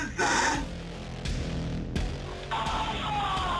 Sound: screaming

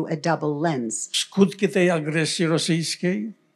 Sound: foreign language

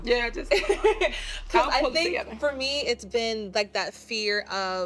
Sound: laughs

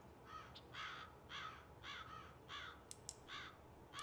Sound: crow caws

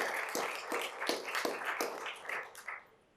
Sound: applause

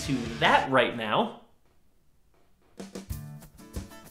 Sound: silence

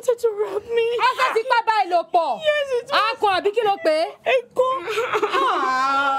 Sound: woman speaking in foreign language

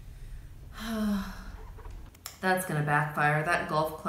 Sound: sighs

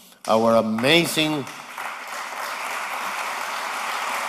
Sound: applause

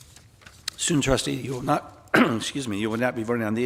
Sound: coughs

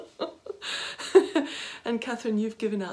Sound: laughing

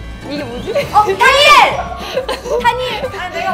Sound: shouted out almost at the same time

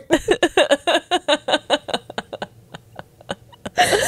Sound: panel laughing

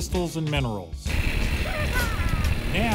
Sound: laughs

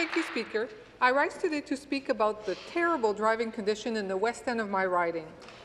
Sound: some Applause

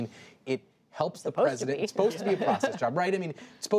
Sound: laughter

